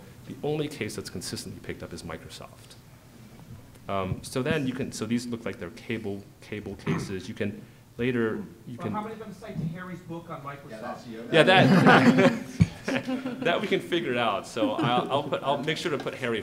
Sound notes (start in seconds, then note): 11.4 group laughter